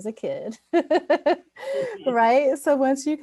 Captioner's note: laughs